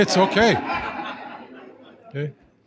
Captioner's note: laughter